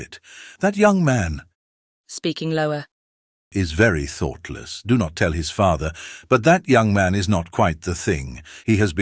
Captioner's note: speaking lower